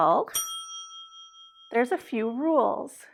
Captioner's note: bell dinging